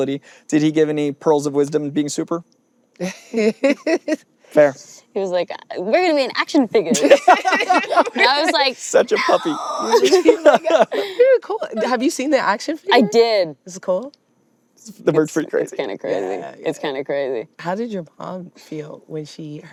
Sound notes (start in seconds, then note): 3.0 laughs; 6.9 all laughing